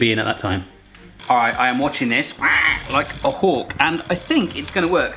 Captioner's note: squawking